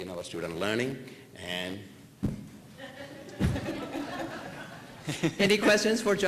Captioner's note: laughter